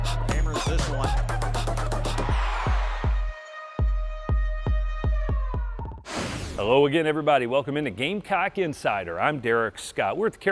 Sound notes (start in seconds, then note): 0.0 crowd cheering; 1.9 crowd cheering; 3.6 upbeat music